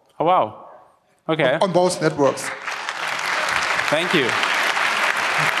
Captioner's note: applause